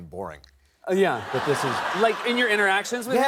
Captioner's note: laughter